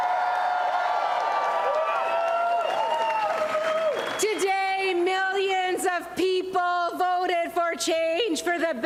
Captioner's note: cheers and applause